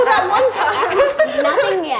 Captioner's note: laughing